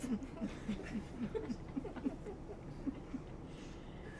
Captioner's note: audience laughing